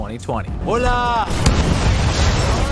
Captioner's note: explosion